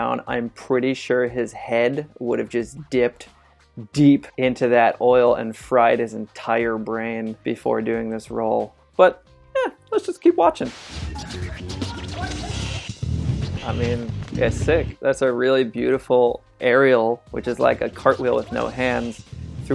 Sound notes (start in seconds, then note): 10.5 action music; 10.6 static noise